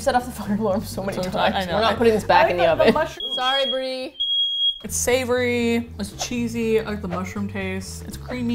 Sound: fire alarm sounds

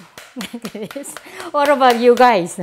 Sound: laughs

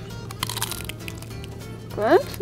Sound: girl crunching

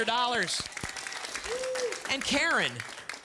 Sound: audience applause

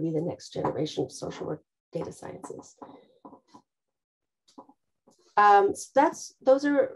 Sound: object clattering

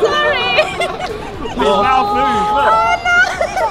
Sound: laughs

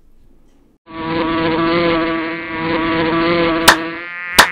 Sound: flies buzzing

